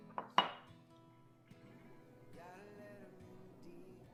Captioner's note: glass clanks